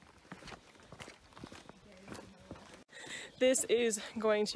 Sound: ground crunching

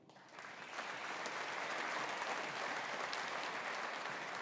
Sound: audience applauding

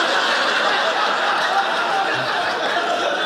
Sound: audience laughing

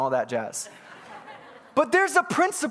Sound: congregants laughing

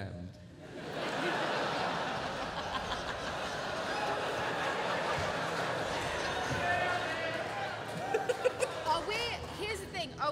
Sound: laughter

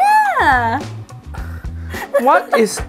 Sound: laughs

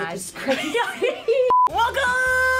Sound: laughing

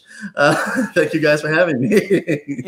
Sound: laughs

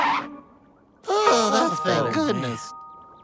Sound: sighing

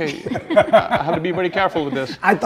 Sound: both laugh

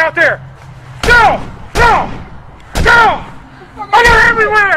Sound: gun shots

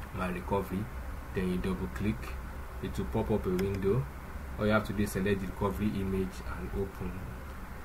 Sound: click

